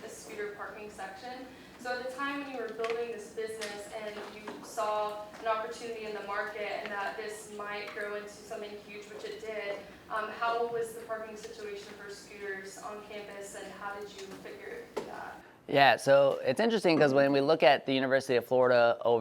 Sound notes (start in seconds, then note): none